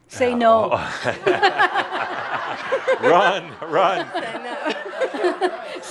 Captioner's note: laughter